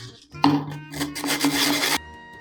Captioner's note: sandpaper scratches